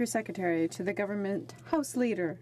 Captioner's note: speaking French